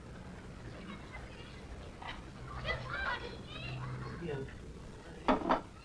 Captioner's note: children playing happily